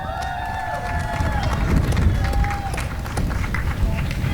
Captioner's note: applause and cheering